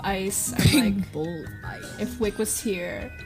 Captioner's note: snickers